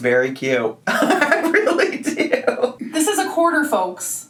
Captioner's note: laughs